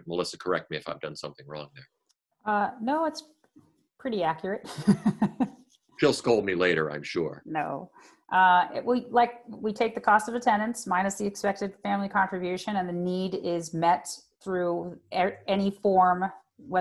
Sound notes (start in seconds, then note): 4.7 laughs